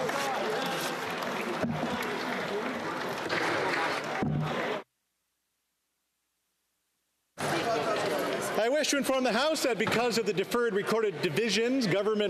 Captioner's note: applause